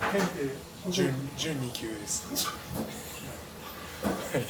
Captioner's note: laughs